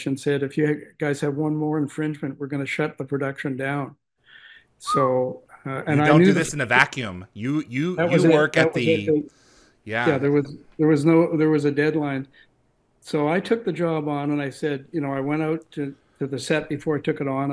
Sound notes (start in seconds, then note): 4.8 whistles